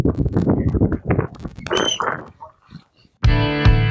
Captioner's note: wind; bird whistling; rock Music